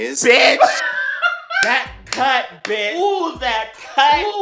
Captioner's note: clap